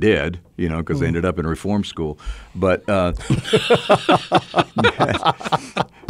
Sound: co-hosts laugh

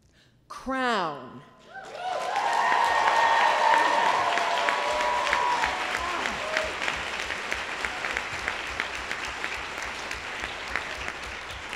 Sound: applause

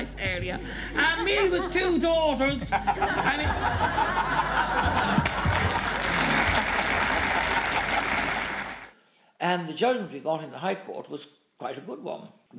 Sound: applause

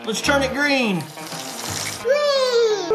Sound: water dripping

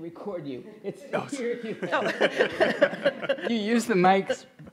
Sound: everyone laughs

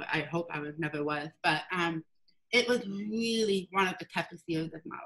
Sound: none

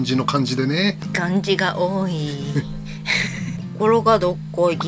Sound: laughs

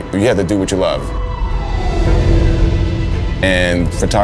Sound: siren wailing

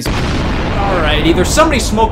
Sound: bomb explodes

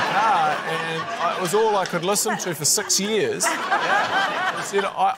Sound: laughter

